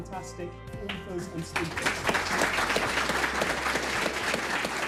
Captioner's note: applause